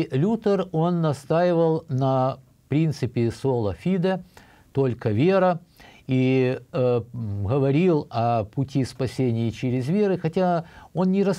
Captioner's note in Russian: говорит на немецком